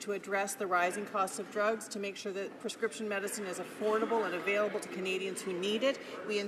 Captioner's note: none